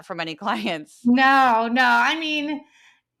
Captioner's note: laugh